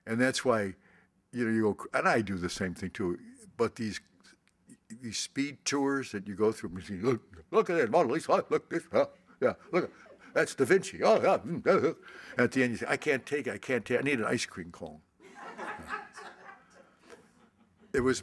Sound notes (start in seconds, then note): 7.0 speaks rapidly; 15.2 laughter